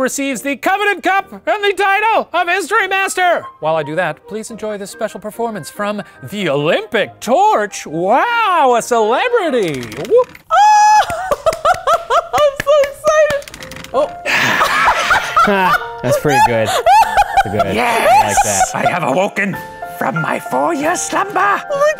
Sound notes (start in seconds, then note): 10.5 cheering; 13.9 laughing